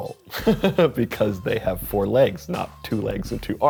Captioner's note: chuckles